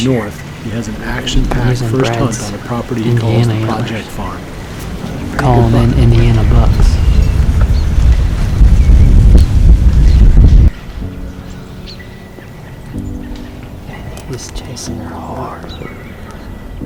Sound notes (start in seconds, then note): 6.4 sound of wind; 10.5 soft music; 16.5 soft piano music